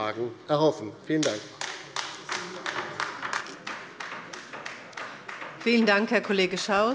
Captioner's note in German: Beifall bei der LINKEN